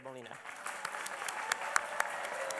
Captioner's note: applause